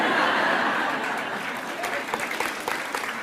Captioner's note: laughter; applause